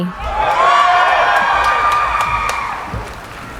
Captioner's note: cheering